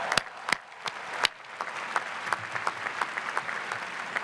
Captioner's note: cheering and clapping